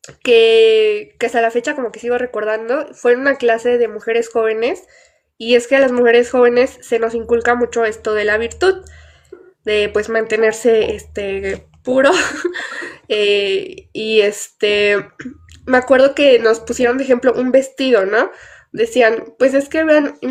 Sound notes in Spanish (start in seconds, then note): 12.0 risas